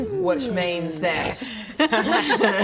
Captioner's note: snort; extra-mature giggles